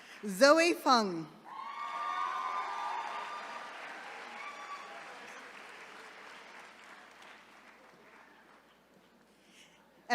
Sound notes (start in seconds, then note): 1.4 attendees cheering